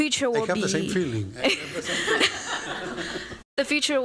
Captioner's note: laughter